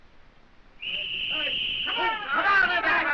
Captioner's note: whistle blowing